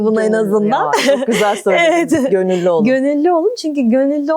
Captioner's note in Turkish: kahkaha